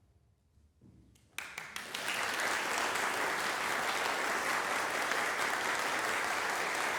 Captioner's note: silence; applause breaks out; applause continues